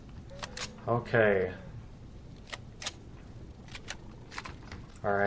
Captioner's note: laughs; weapons click